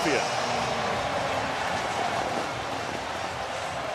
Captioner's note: crowd cheering